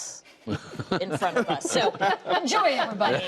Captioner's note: laughter